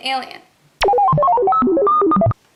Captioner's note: spaceship sounds